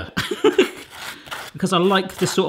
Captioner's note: laughs